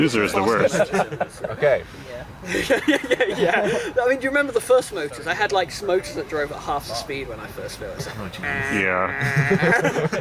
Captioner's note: dejected "yeah"s